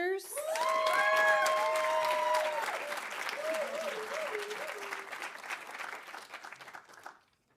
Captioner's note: audience cheering; audience applauding